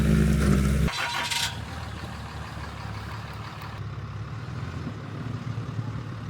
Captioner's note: engine turning and then purring